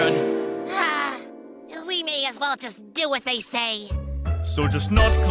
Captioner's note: sigh